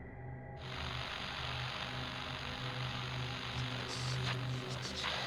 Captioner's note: static